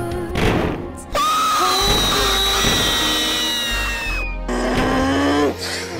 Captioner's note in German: screams